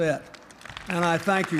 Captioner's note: applause